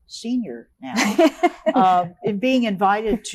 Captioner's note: laughing